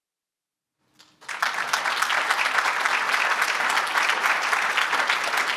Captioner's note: applause